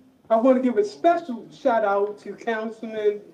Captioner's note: none